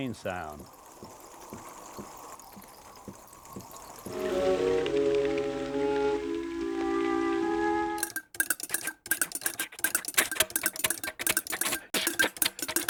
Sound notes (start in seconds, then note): 0.0 sound of rain pattering; 7.8 sound of engine clattering; 9.9 chuffing